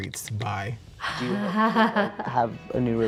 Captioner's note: woman laughing